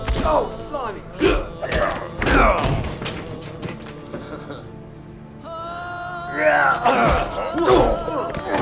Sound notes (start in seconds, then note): 5.6 Makarov laughing